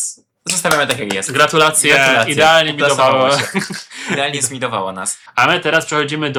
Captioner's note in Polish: śmiech